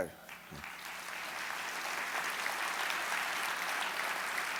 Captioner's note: audience clapping